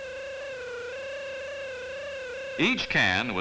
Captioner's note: machine whines